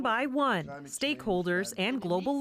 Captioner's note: speaking French